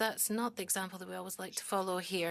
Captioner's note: speaking French